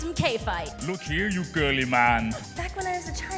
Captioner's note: imitating Arnold Schwarzenegger